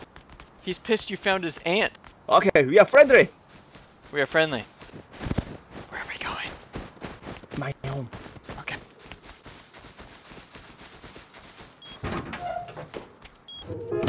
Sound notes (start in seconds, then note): 5.6 whispers; 13.8 sad piano